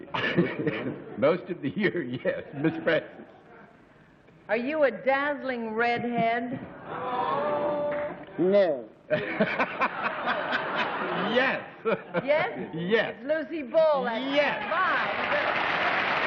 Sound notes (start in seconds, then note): 11.1 laughs